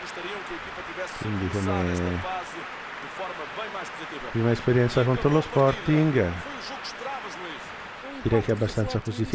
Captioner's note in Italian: Applauso